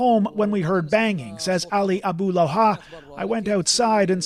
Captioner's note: speaking alternate language